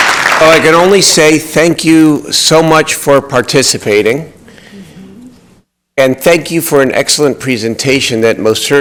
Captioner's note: applause